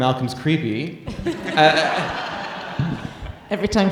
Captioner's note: audience laughing